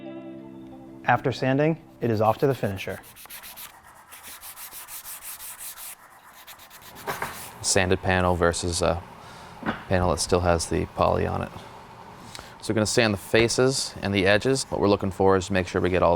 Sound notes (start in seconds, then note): 3.6 sanding